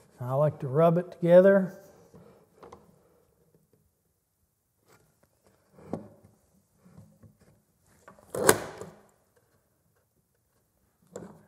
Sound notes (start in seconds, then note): 2.5 wood moving